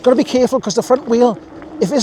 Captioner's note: laughing